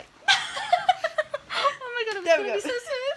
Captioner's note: laughs